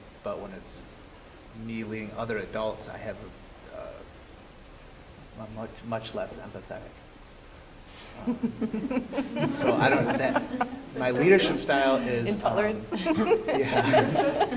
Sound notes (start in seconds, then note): 8.2 laughter